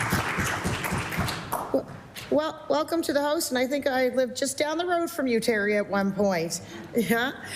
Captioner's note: applause